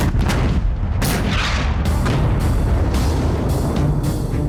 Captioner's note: tank firing